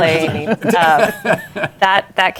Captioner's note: laughter